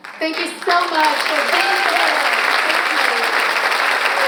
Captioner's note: audience applauds